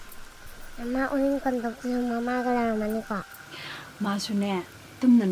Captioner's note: boy speaking in a foreign language; woman speaking in a foreign language